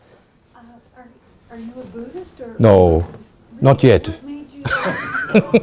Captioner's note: laughing